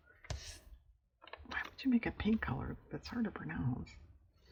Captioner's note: whispers